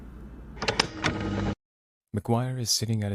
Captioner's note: recording stops